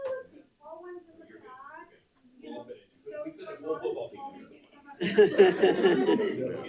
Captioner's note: board Members talking and laughing off microphone